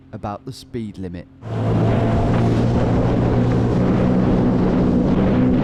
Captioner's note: jet-ski engine roaring